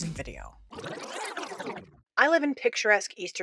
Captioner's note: rewind sfx